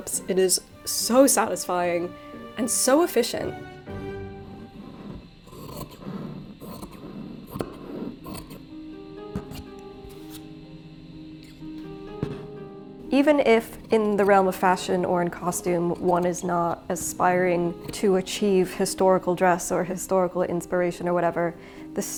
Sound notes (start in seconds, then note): 5.7 scissors snipping; 8.8 gentle bright music